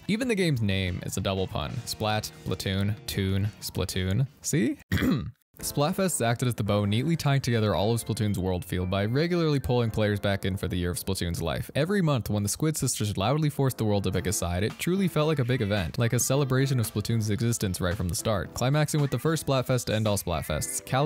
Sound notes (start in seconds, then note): 4.9 cough